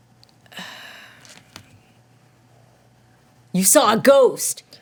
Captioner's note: sighs